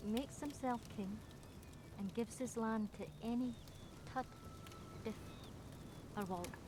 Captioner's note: mutters